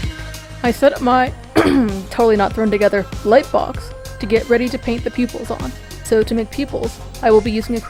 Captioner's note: cough